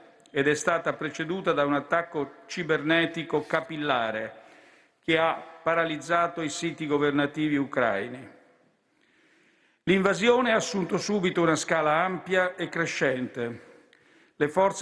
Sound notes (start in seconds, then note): none